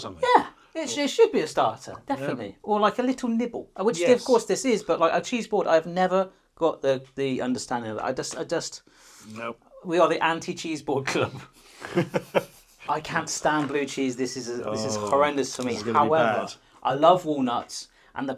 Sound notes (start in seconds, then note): 11.8 laughs